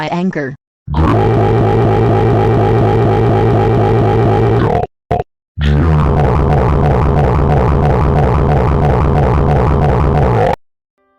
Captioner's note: incoherent screaming